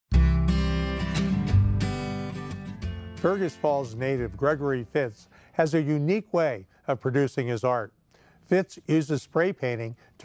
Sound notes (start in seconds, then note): 0.1 upbeat music; 3.3 voiceover